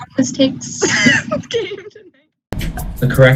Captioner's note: laughter